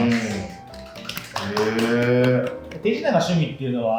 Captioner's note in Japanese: 拍手